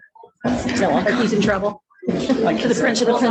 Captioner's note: laughter